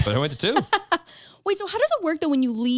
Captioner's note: laughs